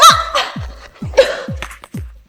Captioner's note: cough